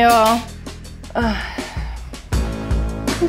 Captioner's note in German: Seufzen